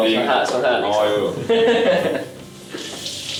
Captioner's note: laughter